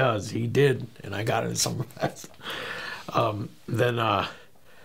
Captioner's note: laughing